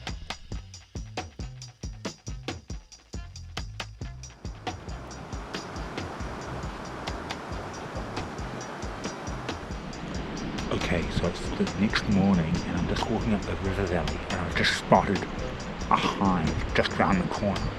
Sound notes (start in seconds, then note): 0.2 reggae music; 5.8 river roaring